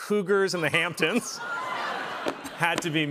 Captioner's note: laughter